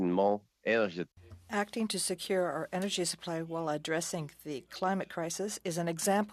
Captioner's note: speaking French